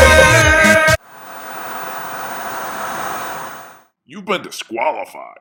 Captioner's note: TV static noise